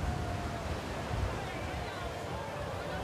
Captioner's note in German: Entfernte Stimmen